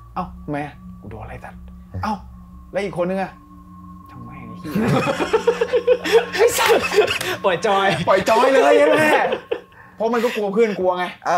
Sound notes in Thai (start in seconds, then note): 4.8 หัวเราะ